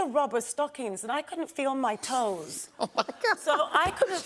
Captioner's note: laughing